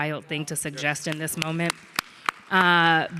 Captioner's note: audience clapping